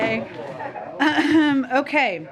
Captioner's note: laughter